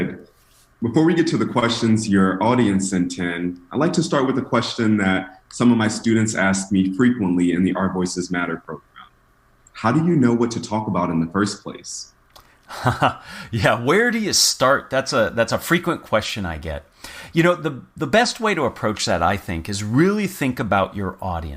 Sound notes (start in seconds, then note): 12.7 laugh